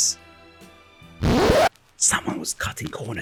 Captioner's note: record scratch